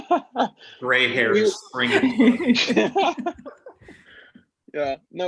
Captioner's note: laughter